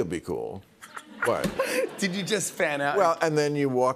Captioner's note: laughter